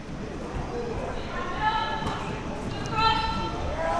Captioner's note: athletes shouting